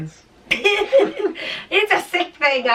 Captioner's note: laughing